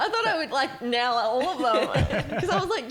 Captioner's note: laughing